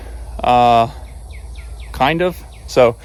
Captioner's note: birds chirping